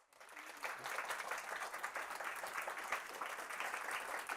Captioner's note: applause